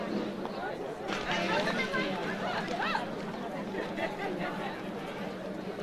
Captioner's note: overlapping chatter